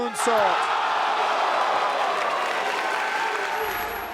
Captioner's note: crowd cheering